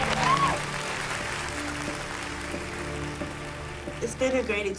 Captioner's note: applause